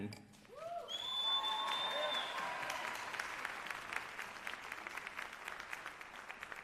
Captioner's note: cheers and applause